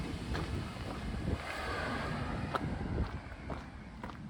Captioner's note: footsteps and traffic noise